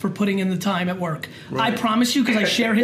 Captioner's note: laughs